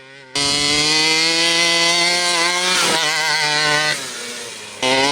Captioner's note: truck engine revving